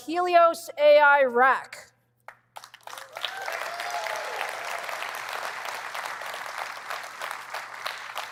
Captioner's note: cheering